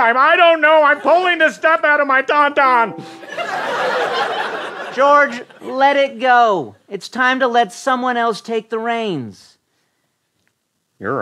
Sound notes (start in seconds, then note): 3.2 laughter